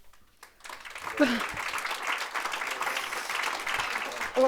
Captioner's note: audience applauding